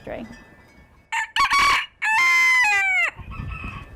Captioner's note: rooster crowing